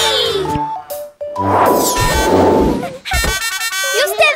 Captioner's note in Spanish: Sonido de bocina